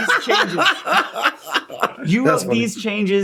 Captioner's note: laughing